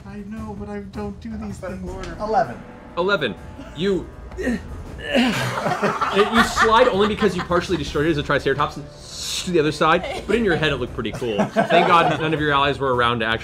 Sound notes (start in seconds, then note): 5.0 grunts; 8.8 ssss